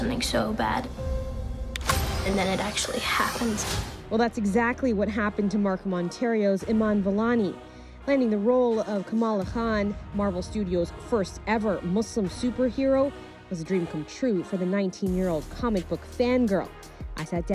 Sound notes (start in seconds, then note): none